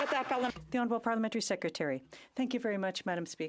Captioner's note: some Applause